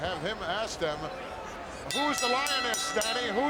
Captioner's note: bell ringing